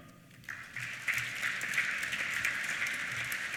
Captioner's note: applause